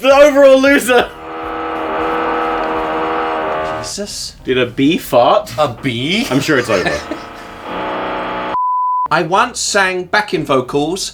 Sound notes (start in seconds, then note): 0.1 machine buzzing; 7.8 buzzing continues; 8.5 beep